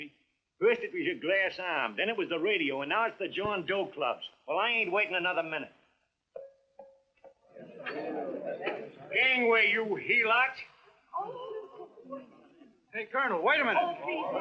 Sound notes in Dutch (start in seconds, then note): 7.3 geklets; 11.2 hijgend